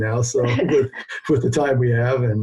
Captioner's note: laughing